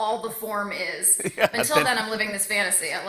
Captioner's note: chuckling